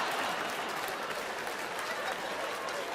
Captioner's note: laughter